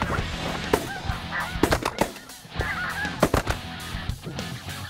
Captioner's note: gun shots